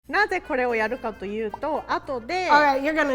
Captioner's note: speaking in Japanese